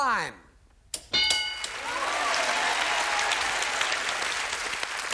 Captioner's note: bell; applause